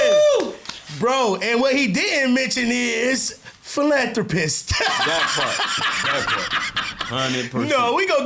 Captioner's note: laughing